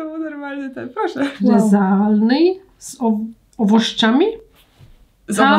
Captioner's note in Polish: rosyjski